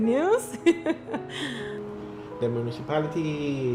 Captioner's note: laughter